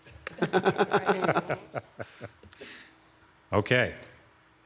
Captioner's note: laughs